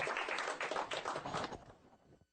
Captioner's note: applause